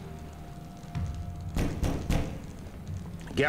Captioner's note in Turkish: Kapı vurma sesi